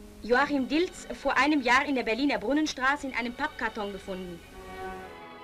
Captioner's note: news announcer speaking in German